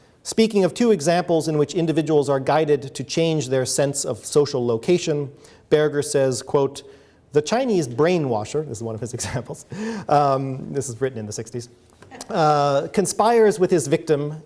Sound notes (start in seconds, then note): 10.2 chuckles; 11.5 audience member chuckles